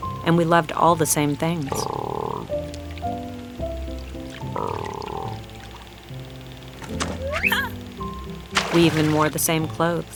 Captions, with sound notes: And we loved all the same things. (croaking) We even wore the same clothes.